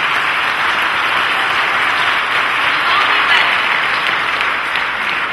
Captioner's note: applause